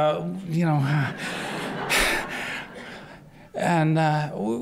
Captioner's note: laughter